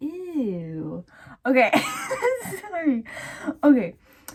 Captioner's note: wheezing